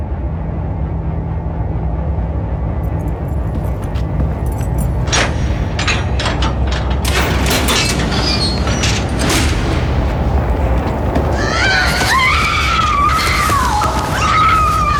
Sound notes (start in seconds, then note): 0.2 electric humming; 4.6 metal clinking; 11.2 screaming